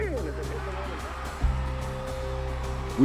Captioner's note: cheers and applause